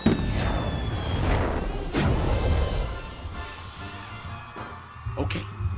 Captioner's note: fireworks popping